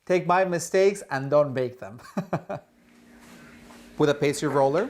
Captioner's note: laughing